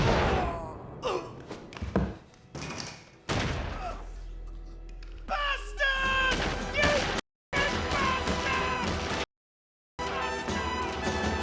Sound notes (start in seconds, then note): 1.0 Dean groans; 3.3 thud